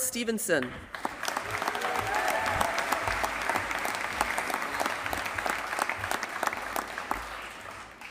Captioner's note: applause